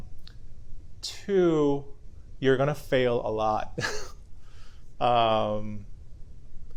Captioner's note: chuckles